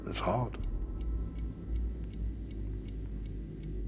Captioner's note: clock ticking